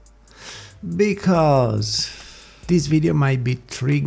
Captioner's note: inhale